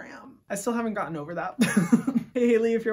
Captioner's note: laughs